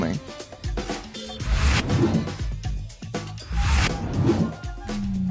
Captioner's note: computer digital swoosh